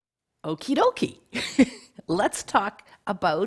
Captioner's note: laughing